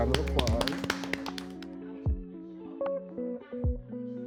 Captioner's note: group applauds; gentle music